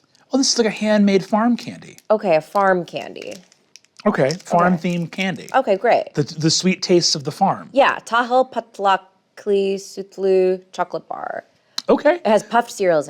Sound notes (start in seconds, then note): 8.9 speaks in foreign language